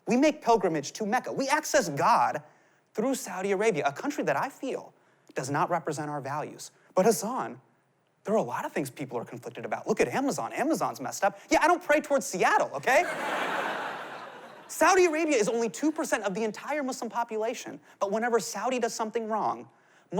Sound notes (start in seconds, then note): 12.9 laughter